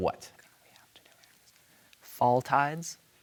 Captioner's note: team whispering